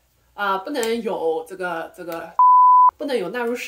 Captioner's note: beep